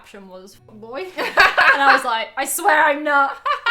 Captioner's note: laughs